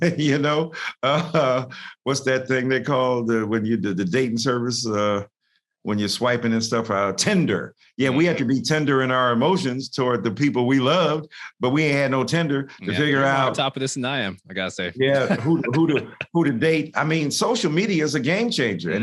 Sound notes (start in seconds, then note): 0.0 laughs; 15.0 laughs